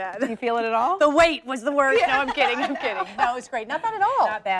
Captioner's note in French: laughter